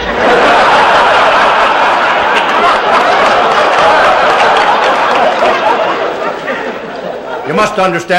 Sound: laughter

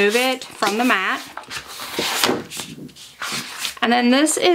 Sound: paper rasping

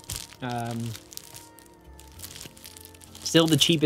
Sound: discs clacking

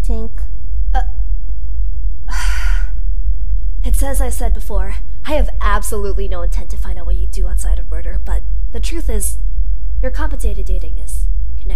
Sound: sigh

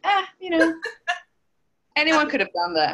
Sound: laughs

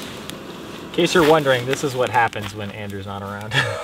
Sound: laughs

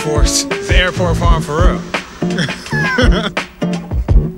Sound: laughs

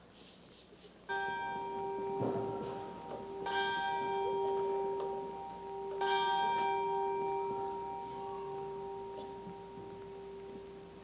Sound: bells rings 3x

